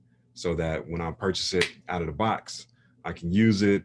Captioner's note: snaps